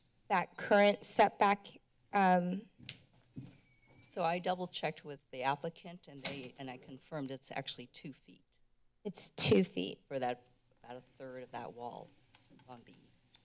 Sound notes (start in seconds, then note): 6.1 door closing